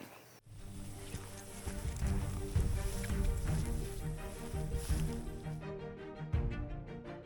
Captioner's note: grass rustling; inspirational music